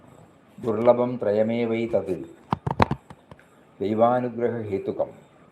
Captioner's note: chants in foreign language